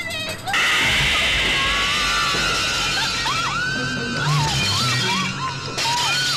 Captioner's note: girls screaming; glass shattering